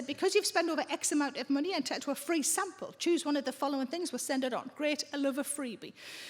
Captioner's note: none